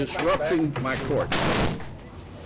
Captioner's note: thuds